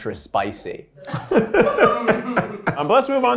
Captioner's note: laughing